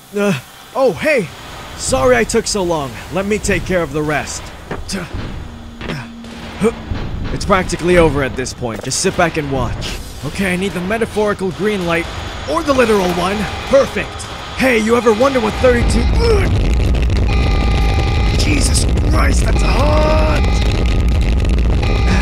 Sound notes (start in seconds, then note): 4.8 grunt; 12.6 alarm blares; 15.6 loud low crackle; 17.2 alarm blares; 17.2 loud low crackle